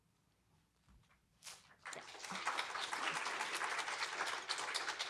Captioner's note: applause